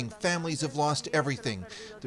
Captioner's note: speaking Foreign Language